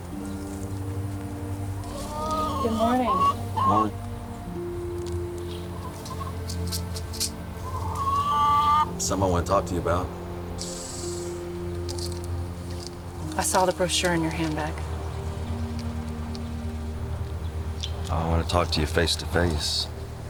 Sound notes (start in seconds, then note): 0.1 gentle music; 6.6 seeds rattling; 7.6 chickens clucking